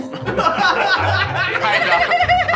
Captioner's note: crew laughs